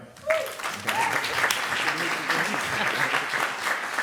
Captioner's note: clapping